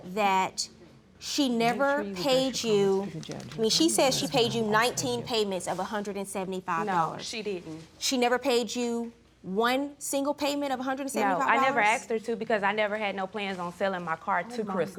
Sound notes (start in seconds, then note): 3.1 murmuring